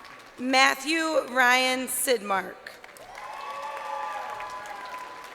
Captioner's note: crowd cheering